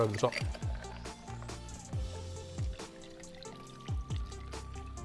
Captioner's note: liquid sloshing